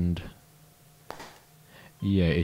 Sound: pop

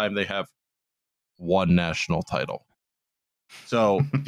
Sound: super-close to mic; chuckles

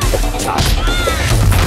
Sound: screaming

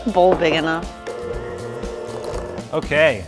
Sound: mixer hums

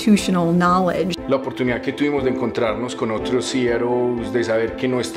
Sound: speaking foreign language

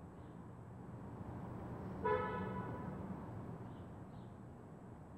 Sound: in the background: a faint distant sound of a car horn

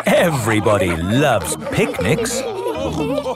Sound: quacking; laughter

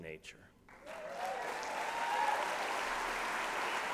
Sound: applause

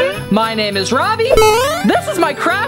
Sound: electronic beep

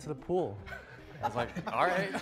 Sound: all laughing

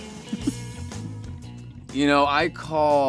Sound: laughs

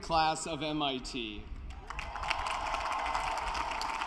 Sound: cheering and applause

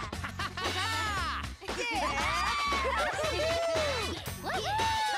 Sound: all laughing; cheering

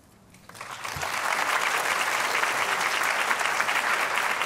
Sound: applause

